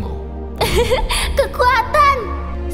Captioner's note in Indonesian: tertawa